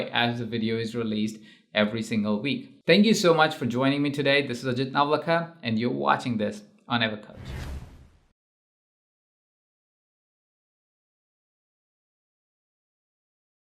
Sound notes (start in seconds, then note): 7.3 air whooshing